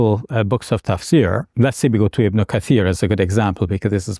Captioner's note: speaking in Arabic